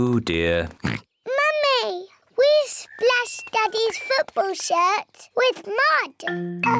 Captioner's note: oinks